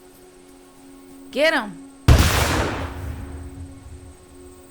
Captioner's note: gun fires